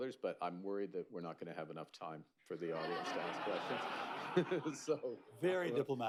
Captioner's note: laughter